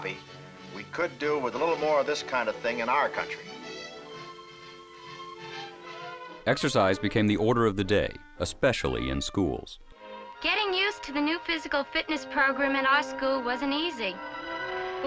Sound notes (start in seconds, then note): 4.4 instrumental music; 6.7 voiceover